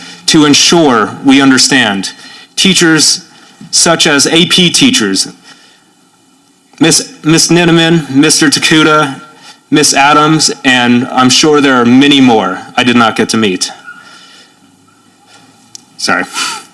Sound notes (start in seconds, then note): none